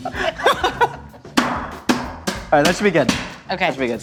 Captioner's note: banging